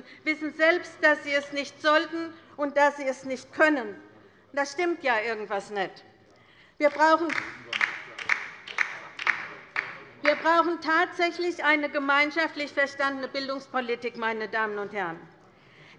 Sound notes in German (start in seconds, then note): 6.8 Beifall bei der LINKEN